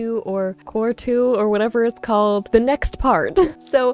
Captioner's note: chuckles